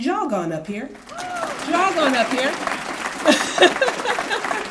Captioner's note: applause